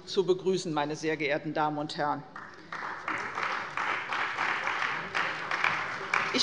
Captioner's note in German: Beifall bei der CDU